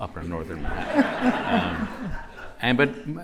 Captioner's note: laughter